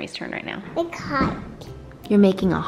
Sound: child talking

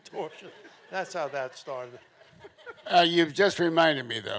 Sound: audience chuckling

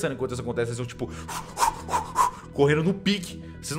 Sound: gasping for air

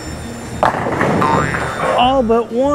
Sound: bowling ball thuds; pins clattering; graphics boings

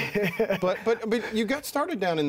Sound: laughing

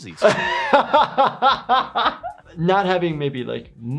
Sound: laughs

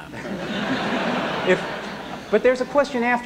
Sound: laughter

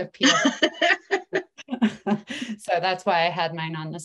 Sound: laughs

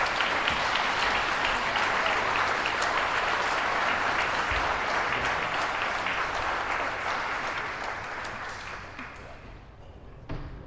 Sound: applause

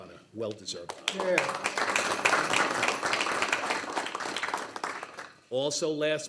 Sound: board members applauding

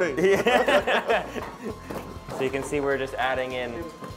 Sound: laughing

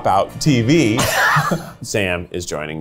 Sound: laughs

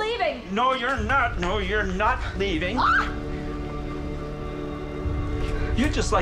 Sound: Liz yells

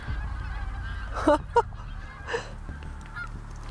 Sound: giggles

